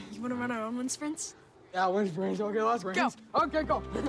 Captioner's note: laughs